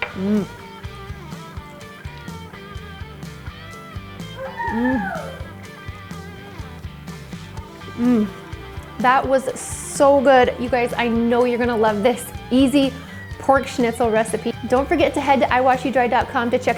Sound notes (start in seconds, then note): 4.3 moans; 4.4 child exclaims